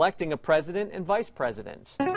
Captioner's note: player buzzer